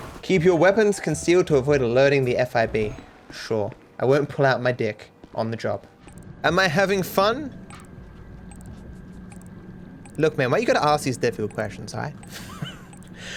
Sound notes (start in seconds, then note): 7.7 Trackify app beeping; 12.2 laughs